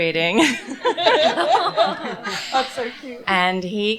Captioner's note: laughter